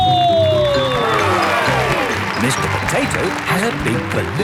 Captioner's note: cheering